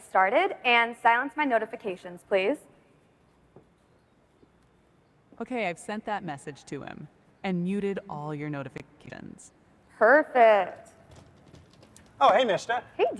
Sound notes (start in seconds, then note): none